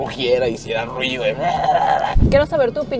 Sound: roars

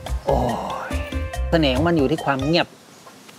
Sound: grunting sound

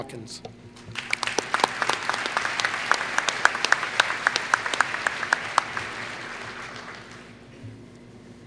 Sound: applause

